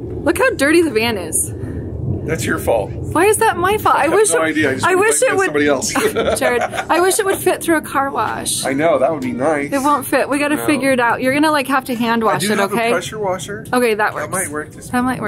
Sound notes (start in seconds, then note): 4.0 laughs; 6.8 chuckles